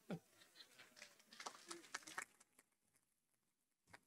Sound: audience applauding

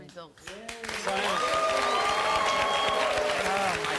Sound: audience applause

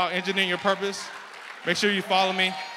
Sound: applause

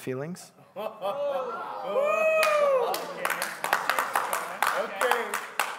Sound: congregation cheering and clapping

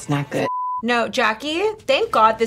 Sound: blooper beeps

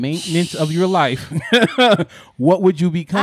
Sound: laughing

